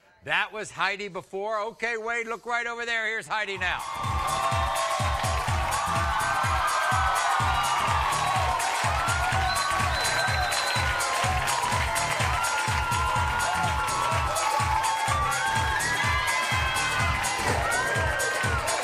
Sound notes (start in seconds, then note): 3.7 bass-heavy music; 7.1 audience cheering and applauding